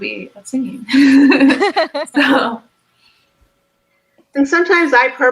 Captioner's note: both laughs